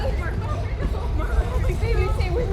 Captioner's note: violent rumble